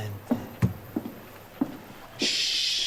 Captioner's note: footsteps